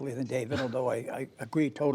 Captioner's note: laughter